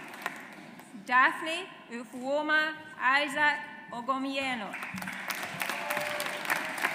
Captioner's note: audience applauds